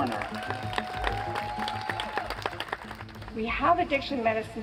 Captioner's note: cheers and applause